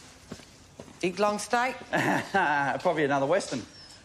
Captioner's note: laughs